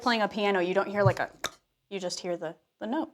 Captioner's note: clunk